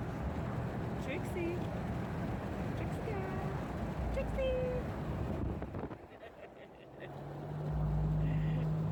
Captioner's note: laughs